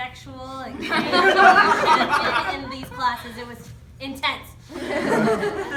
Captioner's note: laughter